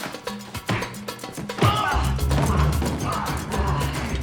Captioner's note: grunting